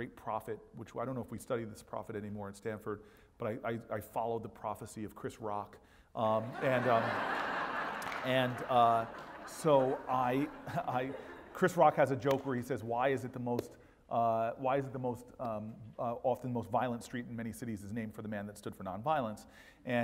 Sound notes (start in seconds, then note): 6.5 laugh